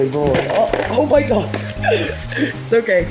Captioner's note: items clatter